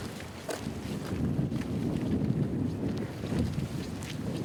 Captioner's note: wind roaring